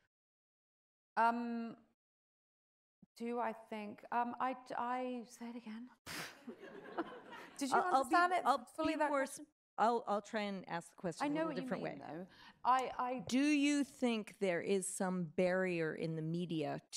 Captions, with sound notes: - Do I think, say it again. (audience chuckles) - Did you understand it? - I'll try and ask the question in a different way. - Do you think there is some barrier in the media